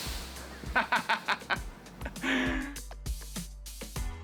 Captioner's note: laughs; electronic music